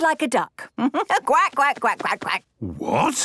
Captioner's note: quacks